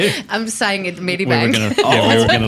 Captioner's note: laughs